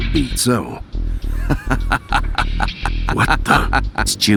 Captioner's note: evil villain laugh